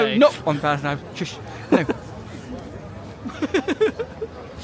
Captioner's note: giggles